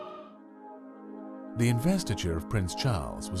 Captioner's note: voiceover